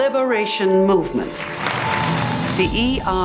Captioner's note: applause